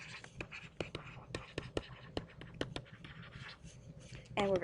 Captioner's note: stylus writing